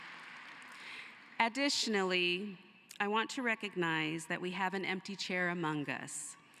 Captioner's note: cheering and applause